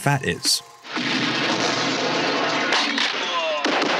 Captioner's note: slow gunfire